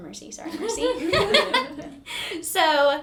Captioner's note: laugh